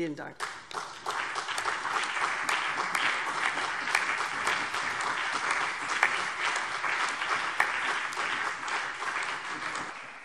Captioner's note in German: Beifall